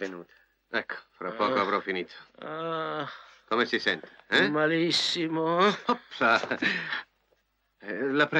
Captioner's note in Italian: risate